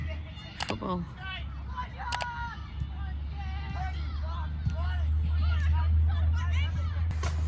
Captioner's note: young and older voices continue calling out loudly across the field